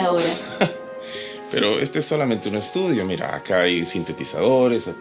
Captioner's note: chuckles